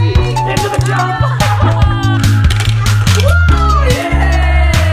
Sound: laughter

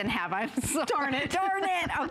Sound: laughter

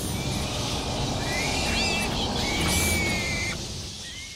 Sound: squealing

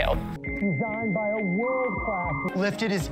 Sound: dial up noises

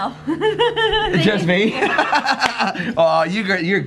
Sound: laughs

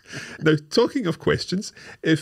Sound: laughing

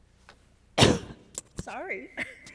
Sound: coughs into microphone

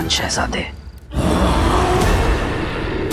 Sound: grunting

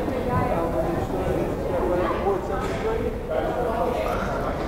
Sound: crowd chattering

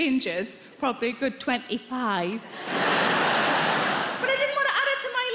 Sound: audience laughter

